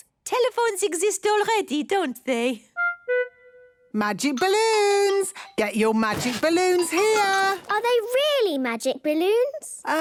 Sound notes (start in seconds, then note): none